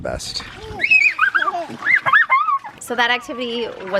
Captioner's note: squealing